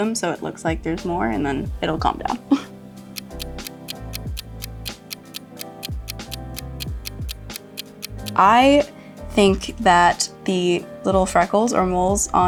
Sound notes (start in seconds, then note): 3.1 clock ticks